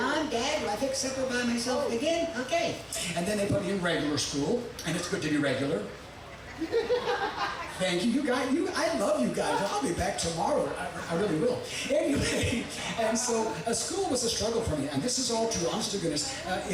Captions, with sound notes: "Mom, Dad, will I fix supper by myself again? Okay." And then they put me in regular school. And it's good to be regular. (audience laughing) Thank you. I love you guys. I'll be back tomorrow. I really will. Anyway. (chuckling) And so school was a struggle for me. And this is all true, honest to goodness.